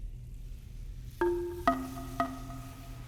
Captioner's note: none